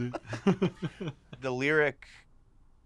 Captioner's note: laugh